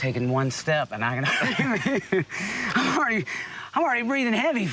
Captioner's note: laughter